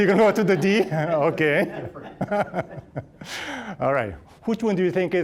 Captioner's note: all laughing